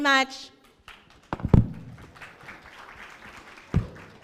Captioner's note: clapping